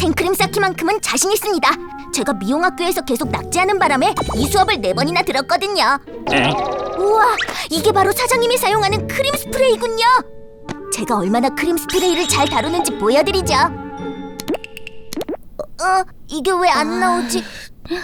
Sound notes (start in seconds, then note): 14.8 cream boops